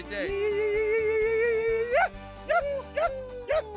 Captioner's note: yelping call-out